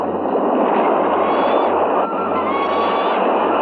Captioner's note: bird shrieking